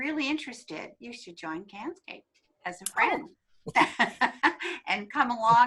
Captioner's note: laughs